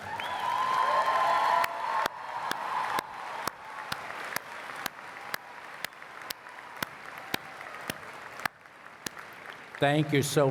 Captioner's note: applause